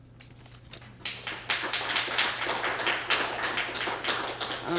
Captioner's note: applause